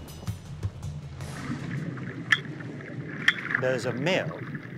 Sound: water gurgling, clicking

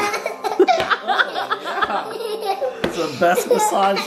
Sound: laughing

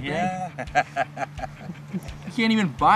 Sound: laughing

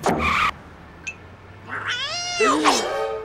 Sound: meows

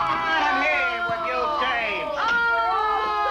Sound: prisoners groan

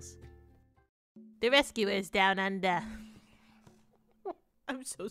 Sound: bad Australian accent

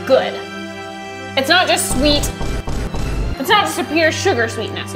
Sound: fist bangs

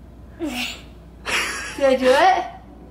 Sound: laughs

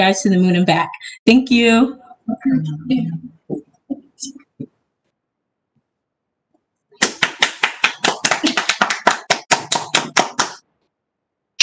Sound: clapping

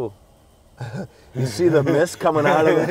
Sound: laughs

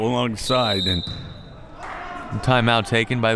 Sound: whistle

